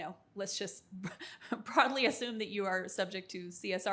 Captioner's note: chuckles